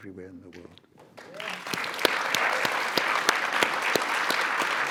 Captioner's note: audience applauds